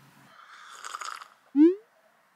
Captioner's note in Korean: 호로록